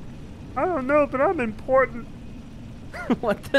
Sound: goofy voice

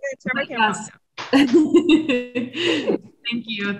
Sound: laughs

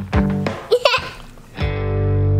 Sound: giggling; upbeat music

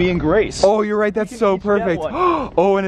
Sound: gasps

